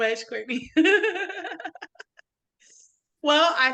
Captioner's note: laughing